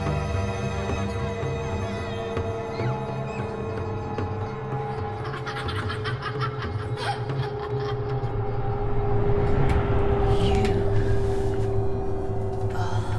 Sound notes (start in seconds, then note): 5.1 boy laughing